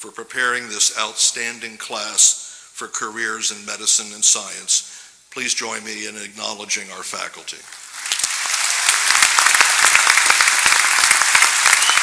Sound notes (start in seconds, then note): 7.6 applause